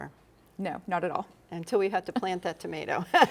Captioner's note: laughs